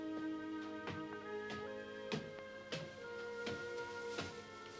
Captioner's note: footsteps thudding